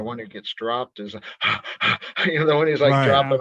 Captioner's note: heavily breathing